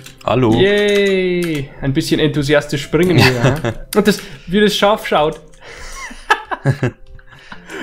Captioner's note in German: lachen